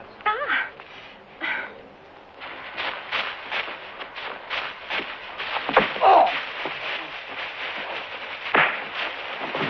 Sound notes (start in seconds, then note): 5.9 grunting; 8.4 thud